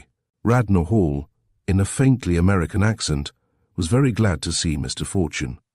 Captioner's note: in a faintly American accent